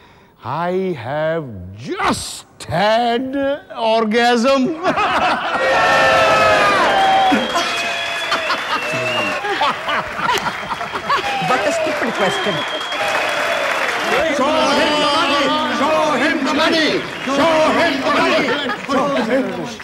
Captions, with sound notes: I have just had an orgasm [everyone laughs] what a stupid question [cheering and clapping] show him the money show him the money